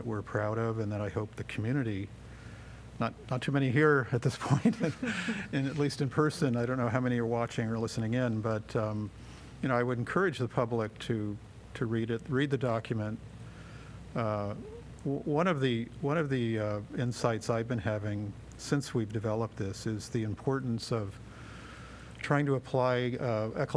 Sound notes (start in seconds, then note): 4.4 laughter